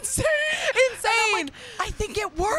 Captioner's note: laughter